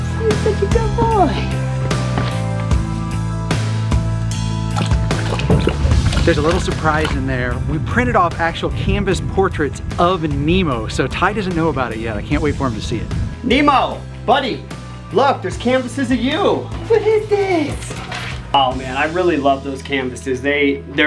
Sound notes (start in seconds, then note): 2.3 inspirational rock music; 4.6 water sloshing